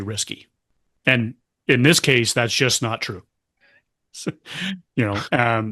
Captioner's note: laughter